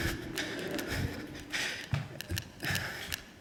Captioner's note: laughter